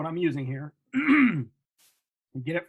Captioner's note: throat clearing